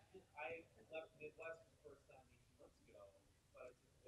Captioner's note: man murmuring